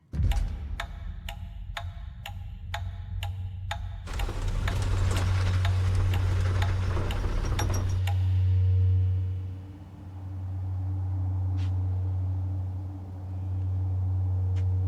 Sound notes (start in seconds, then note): 0.2 clock ticking; 4.0 roller coaster clunking